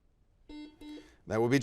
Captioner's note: buzzer dings